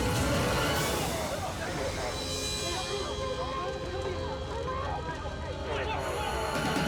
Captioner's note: rescuers screaming indistinctly